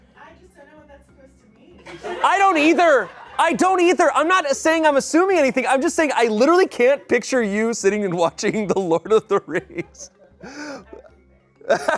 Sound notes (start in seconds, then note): 1.8 people laugh; 8.0 laughs